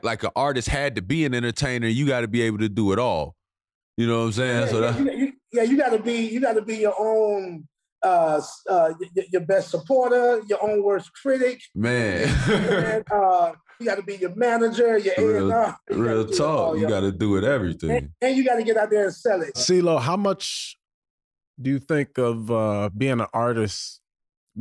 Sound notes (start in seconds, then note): 11.9 laughs